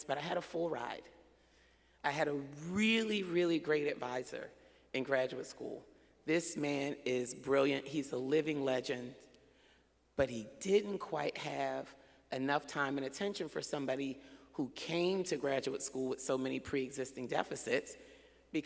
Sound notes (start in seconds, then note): none